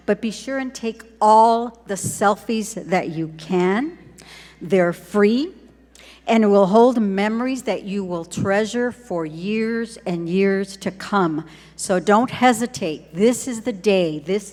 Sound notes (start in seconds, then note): none